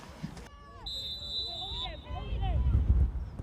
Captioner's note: referee blows whistle